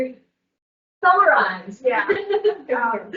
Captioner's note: laughs